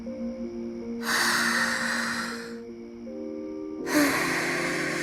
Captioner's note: inhale; exhale